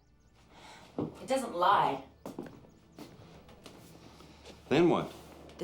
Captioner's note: sighs